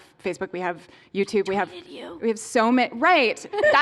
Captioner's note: whispering